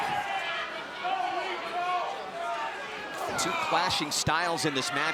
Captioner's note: crowd chatter